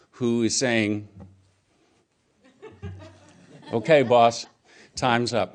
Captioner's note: laughter